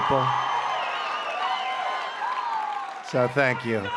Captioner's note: applause